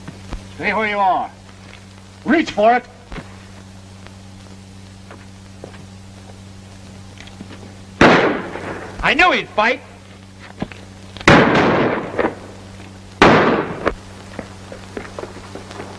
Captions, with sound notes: Stay where you are. Reach for it! [gunshot] I knew he'd fight. [gunshots]